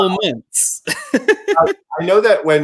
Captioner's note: chuckle